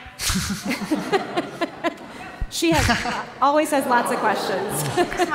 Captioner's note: laughter; laughter